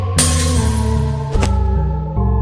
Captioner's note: glass shatters; woosh, thump